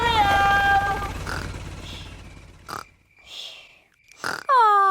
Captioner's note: baby alexander snoring